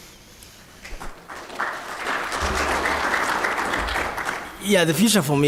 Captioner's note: applause